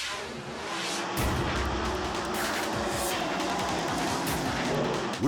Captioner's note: air whooshes; engines roar